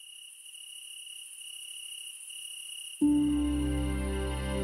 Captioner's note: insects chirping